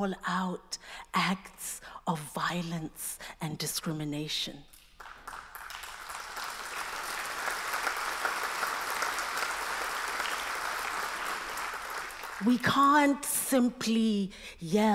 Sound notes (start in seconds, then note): 4.7 applause